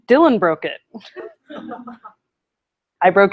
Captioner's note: laughter